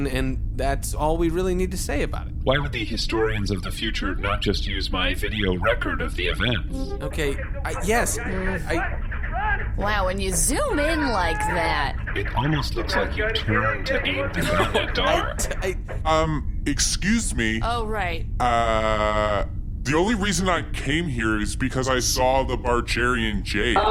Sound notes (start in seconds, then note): 6.2 holo playback starts; 15.2 laughing